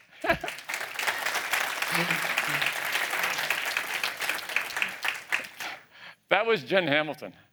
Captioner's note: applause